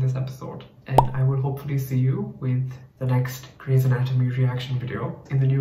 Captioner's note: pop